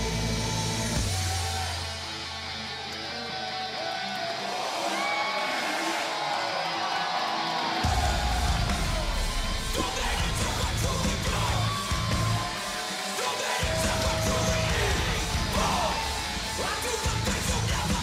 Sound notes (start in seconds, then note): 5.2 cheers and applause